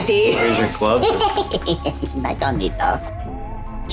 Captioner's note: laughing